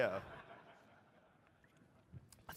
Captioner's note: laughter